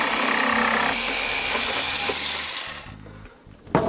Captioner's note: whirring